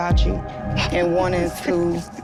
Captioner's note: laughing